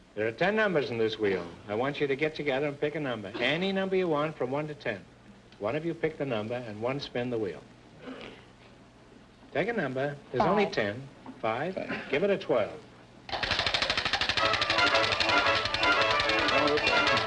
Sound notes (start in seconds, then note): 13.3 wheel clicking loudly